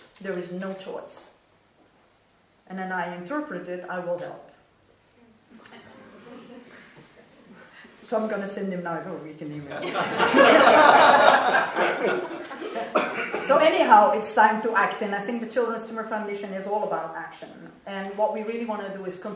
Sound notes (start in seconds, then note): 9.8 laughing